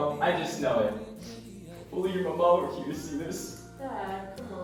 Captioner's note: sniffles